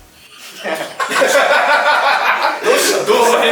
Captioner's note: laughter